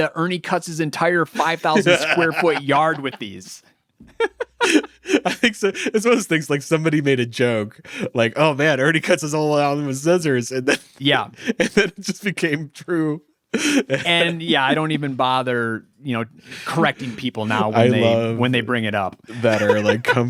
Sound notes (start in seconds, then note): 4.0 laughing